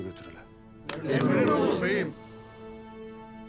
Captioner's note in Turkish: Hep bir ağızdan